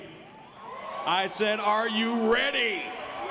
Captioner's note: audience cheers